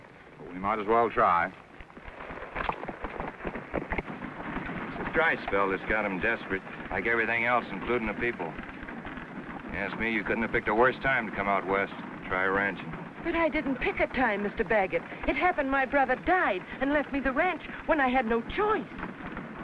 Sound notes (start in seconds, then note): none